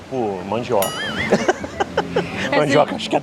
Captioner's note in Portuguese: risos